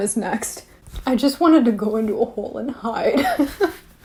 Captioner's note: laughs